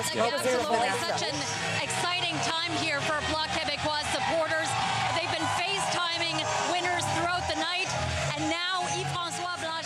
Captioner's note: cheering and Applause